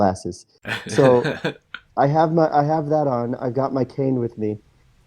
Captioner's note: laughs